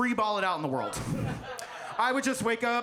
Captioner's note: audience laughs